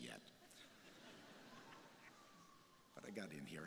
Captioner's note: crowd laughing